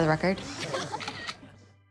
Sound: all laughing; camera shutter clicks

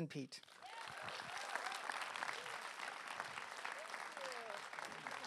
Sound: audience applause

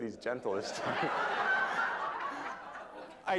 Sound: laughter

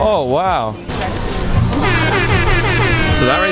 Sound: repeated air horn

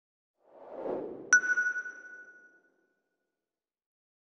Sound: logo whooshes into view, stopping with a sonar-like 'ping'

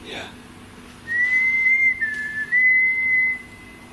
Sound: whistling

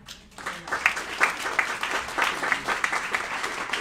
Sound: applauding

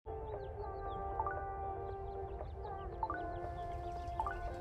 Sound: phone chimes

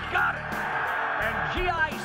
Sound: cheering

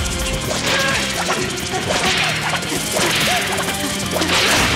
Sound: panting

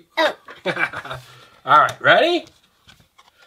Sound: laughing

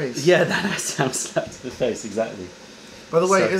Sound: laughter

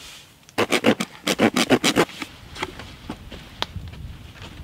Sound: knife scraping

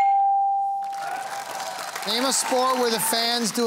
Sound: cheering and applause

